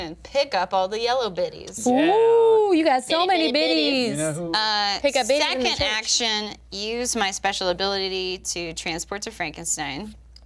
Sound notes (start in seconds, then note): none